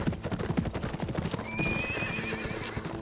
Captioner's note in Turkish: At kişniyor